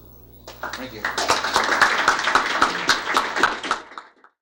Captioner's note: applause